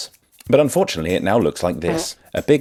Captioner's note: fart noise